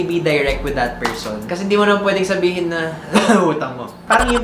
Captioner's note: coughs